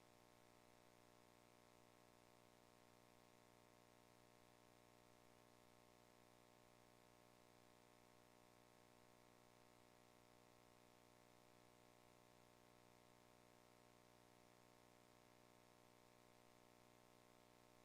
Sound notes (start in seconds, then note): none